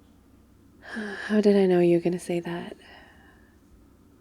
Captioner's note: sighs